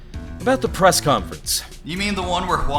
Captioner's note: none